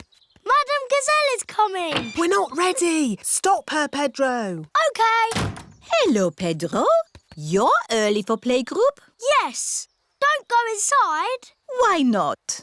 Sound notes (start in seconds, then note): none